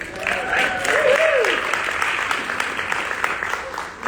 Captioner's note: audience applauding